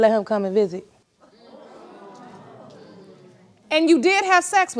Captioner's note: audience gasps